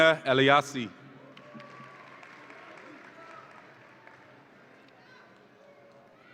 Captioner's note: audience applauds and cheers